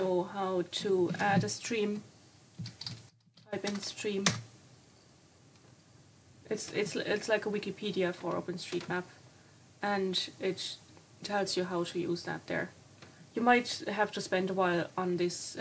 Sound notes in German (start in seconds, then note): 12.0 Auch auf Deutsch